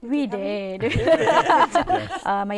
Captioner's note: laughter